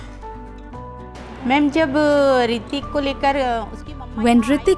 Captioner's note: speaking in foreign language